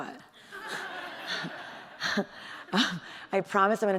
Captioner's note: audience laughing